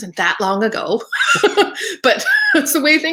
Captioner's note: laughing